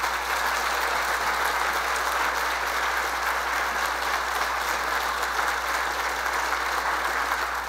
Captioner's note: applause